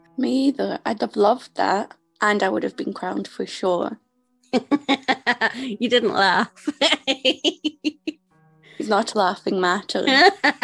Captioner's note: laugh